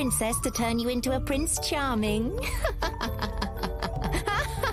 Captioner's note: chuckles